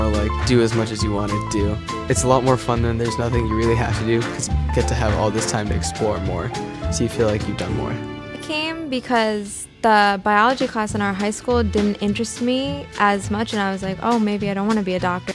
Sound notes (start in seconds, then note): 0.0 voiceover; 8.1 voiceover